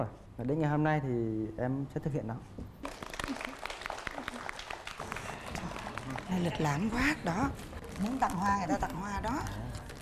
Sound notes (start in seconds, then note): 3.2 laughing